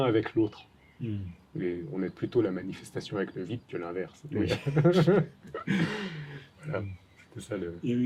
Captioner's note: laughs